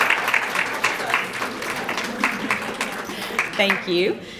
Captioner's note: crowd clapping; background chattering